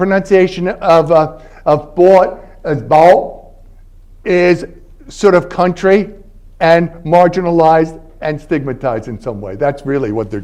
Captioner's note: southern